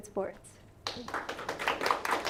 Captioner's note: applause